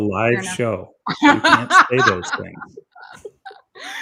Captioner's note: laughs